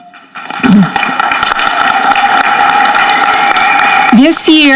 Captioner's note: audience clapping